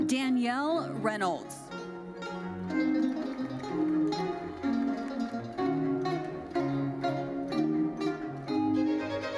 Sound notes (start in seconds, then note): 1.8 bright lively music continues; 2.6 audience applauding